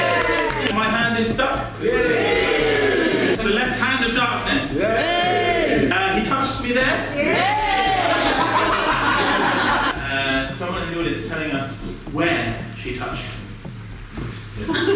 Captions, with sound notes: 'My Hand is Stuck' ? [Audience cheer moderately] 'The Left Hand of Darkness' ? [Audience cheer louder] er, 'He Touched Me There' ? [Audience cheer even louder] [Audience Laughing] Er, someone in the audience telling us where she touched him?